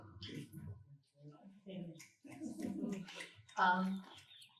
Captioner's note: snaps